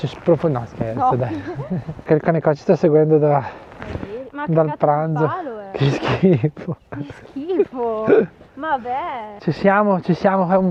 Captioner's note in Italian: risate